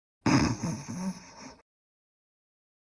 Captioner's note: snorts